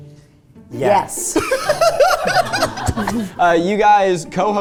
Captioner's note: laughing